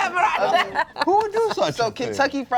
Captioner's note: laughs